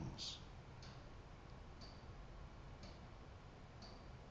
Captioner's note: clock ticking